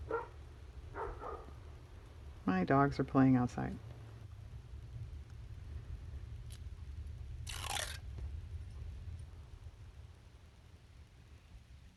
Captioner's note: dog barks